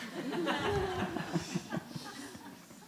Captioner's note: laughter